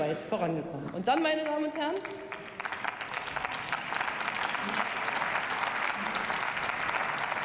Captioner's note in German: Beifall